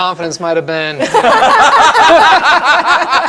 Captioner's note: laughter